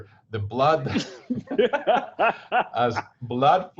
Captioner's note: laughing